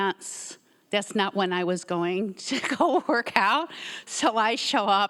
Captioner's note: laughs